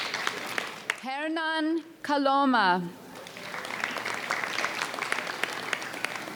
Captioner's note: audience applauds; audience applauds